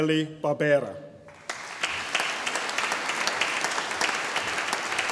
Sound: audience applauding

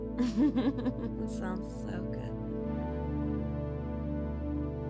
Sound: laughs

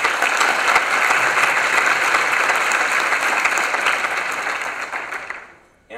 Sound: applause

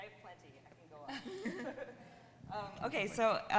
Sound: both laughing

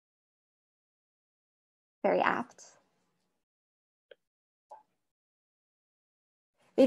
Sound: silence

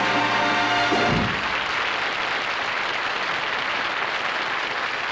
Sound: applause

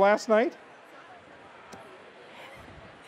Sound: laughter

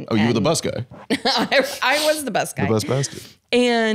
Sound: laughs

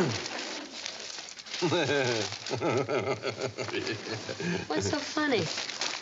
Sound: <font color=#000000FF> <i></font> laughing</i>

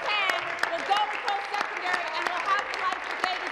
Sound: applause

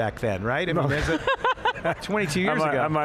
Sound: laughing loudly

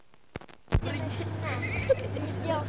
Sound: non-english speech

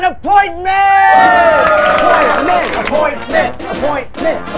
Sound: cheers and applause

